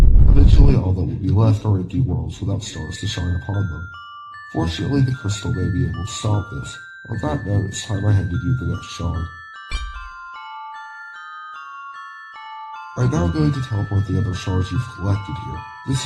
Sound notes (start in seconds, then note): 9.6 clink